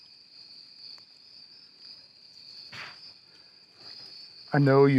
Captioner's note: insects chirping